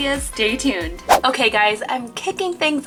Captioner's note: swish